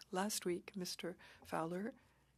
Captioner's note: speaking French